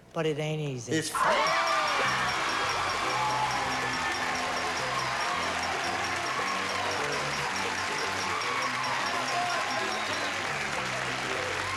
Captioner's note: cheers and applause